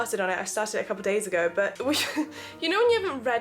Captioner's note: laughs